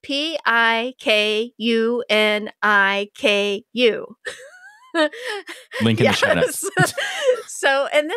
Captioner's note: laughs